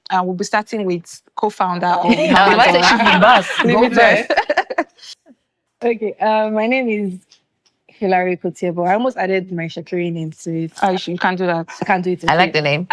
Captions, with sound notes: And we'll be starting with co-founder of Mama Dora. [laughing] Okay, my name is Hillary Okotie-Eboh. I almost added my Isekiri name to it. You can do that. I can do it? Okay. I like the name.